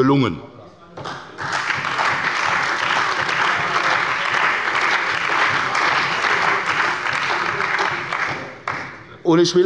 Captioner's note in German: Beifall bei der CDU und dem BÜNDNIS 90/DIE GRÜNEN